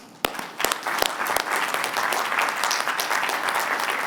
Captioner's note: applause